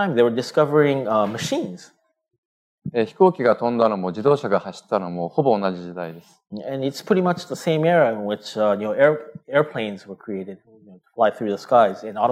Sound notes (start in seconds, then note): 4.9 speaking japanese